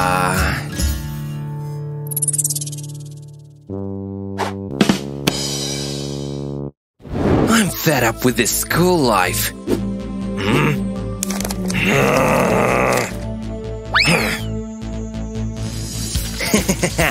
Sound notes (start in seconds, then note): 4.7 grumbling